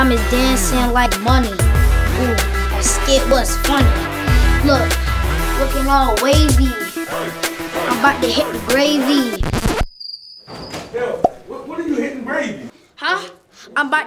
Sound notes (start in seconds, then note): 9.3 record skipping; 9.9 crickets chirping